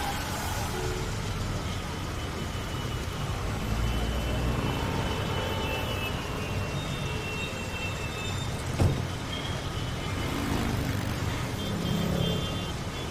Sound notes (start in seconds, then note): 8.7 car door slams; 10.2 traffic noise